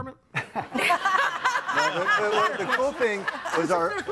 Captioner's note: audience laughing